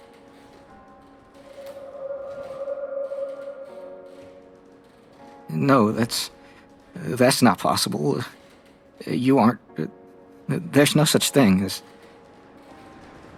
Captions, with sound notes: [GHOSTLY NOISE] No… no that’s… that’s not possible… You aren’t… there’s no such thing as…